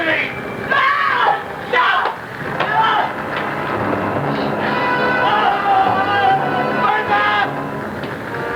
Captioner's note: screaming